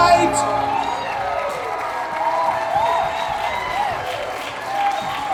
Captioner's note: crowd cheers